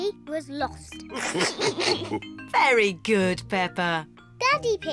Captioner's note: all laugh